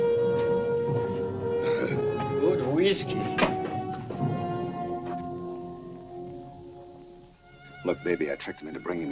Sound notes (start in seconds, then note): 1.6 soldier grunts